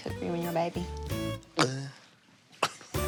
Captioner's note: laughs; makes gulp noise